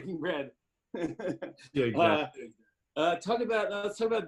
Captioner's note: laughs